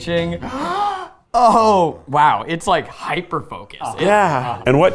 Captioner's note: gasps